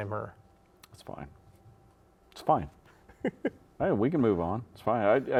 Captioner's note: laughs